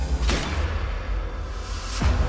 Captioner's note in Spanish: Disparos